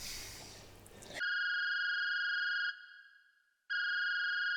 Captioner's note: phone rings